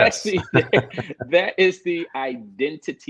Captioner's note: laughing